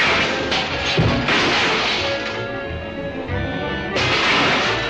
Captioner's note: metal clashes